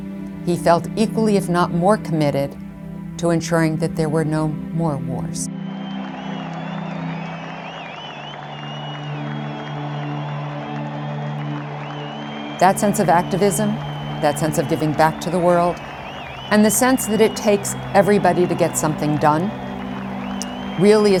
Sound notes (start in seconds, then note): 7.5 crowd cheering and applauding on the street